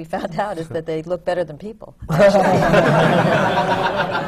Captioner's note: laughter